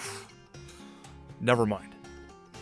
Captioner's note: sigh